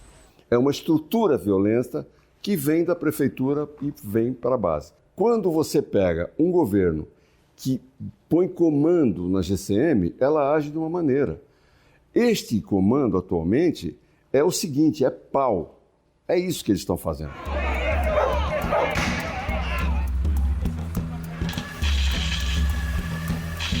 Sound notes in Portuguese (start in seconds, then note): 18.9 Som de tiro